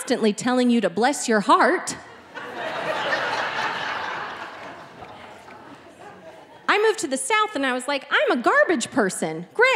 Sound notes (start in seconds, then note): 2.2 audience laughing